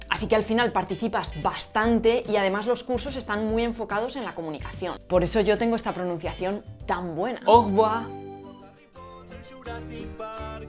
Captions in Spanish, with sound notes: Así que, al final participas bastante, y además, los cursos están muy enfocados en la comunicación. Por eso yo tengo esta pronunciación tan buena… (Habla francés).